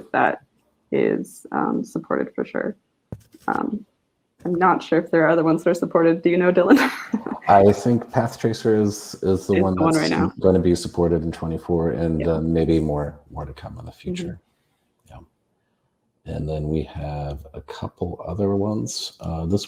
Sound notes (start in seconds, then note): 7.1 laughs